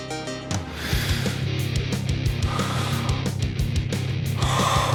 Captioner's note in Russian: вздохи страдания